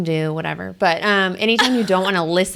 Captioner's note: laughs